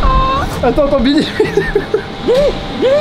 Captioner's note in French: rire